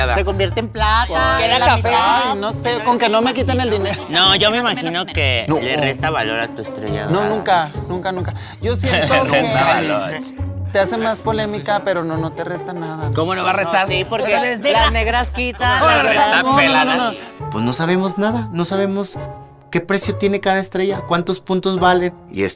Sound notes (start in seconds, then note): 15.7 gay arguing